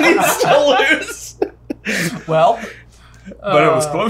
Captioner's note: all laughing